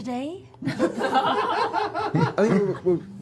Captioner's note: laughter